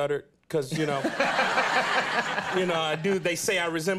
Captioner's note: audience laughing